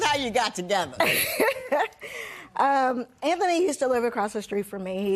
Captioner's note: laughs